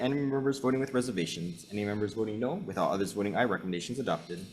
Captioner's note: none